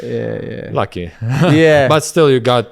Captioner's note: laughs